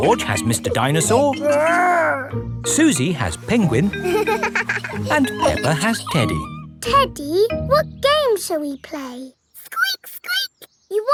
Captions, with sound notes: -George has Mr. Dinosaur... -Grr! -Suzy has Penguin... -(GIGGLES) And Peppa has Teddy. Teddy, what game shall we play? Squeak, squeak.